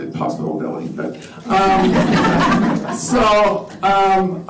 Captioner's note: laughter